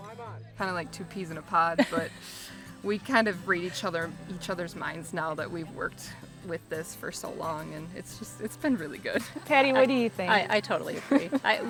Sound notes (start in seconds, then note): 1.6 laughs; 11.4 laughs